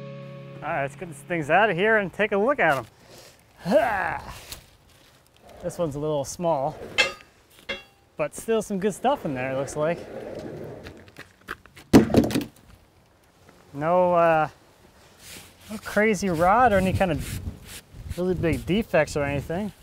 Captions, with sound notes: All right, let's get these things out of here and take a look at them. (grunting) This one's a little small. But still some good stuff in there it looks like. No crazy rot or any kind of really big defects or anything.